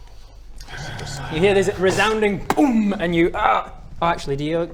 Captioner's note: boom!